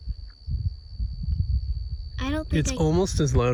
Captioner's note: slight sound of crickets